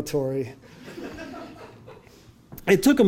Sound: audience laughing

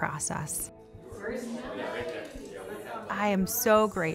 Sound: group chatter

